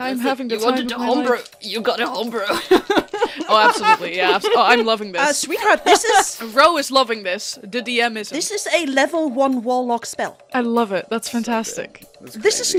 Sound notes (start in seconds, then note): 0.1 strained; 2.2 dice clacking in the background; 2.4 laughs